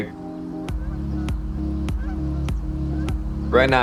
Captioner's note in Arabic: زقزقة طيور